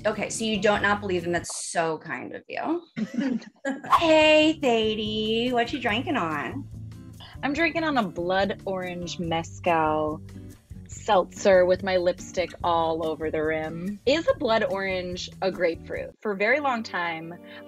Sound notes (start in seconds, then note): 3.0 laughing; 16.3 sad violin music